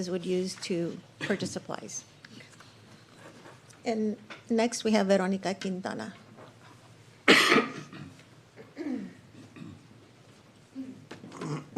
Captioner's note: cough and clears throat